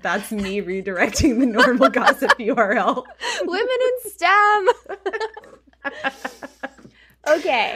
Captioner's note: laughing